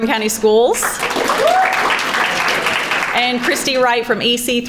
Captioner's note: crowd applauding